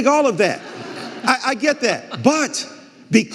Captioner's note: audience laughing